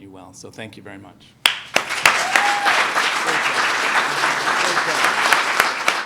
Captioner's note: applause